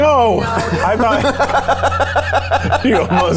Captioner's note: laughing